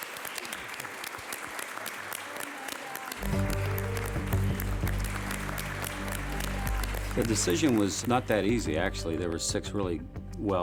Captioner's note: applause